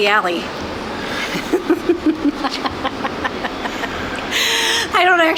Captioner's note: laughter